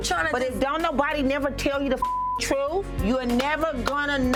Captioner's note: beep